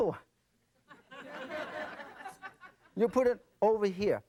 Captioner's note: audience laughing